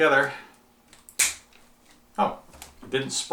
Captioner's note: plastic snaps